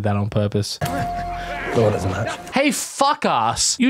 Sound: chuckles to self

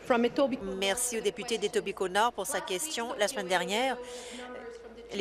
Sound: speaking in French

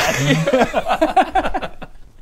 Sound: defeated giggles

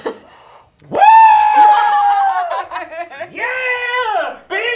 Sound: yelling excitedly

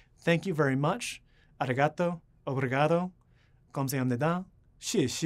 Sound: non-english speech

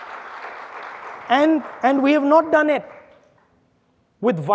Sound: audience applauding

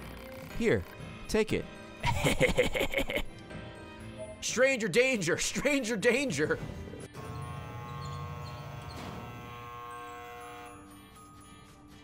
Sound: laughs

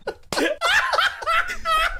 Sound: laughter

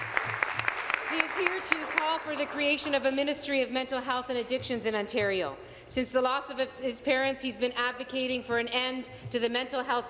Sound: applause

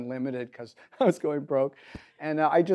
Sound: laughs

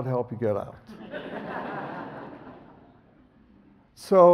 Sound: audience laughs

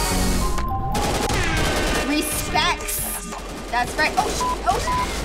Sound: blaring

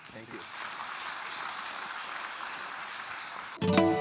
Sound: applause

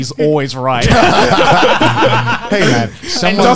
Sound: men laughing

